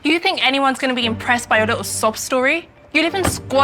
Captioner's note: car door closes